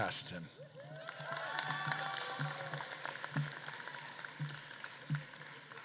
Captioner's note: audience claps and cheers